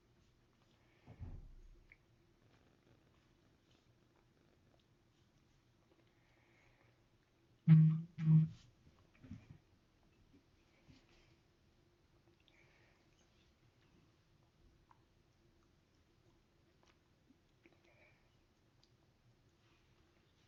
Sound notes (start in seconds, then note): 0.0 silence; 7.6 phone Buzzes; 10.0 silence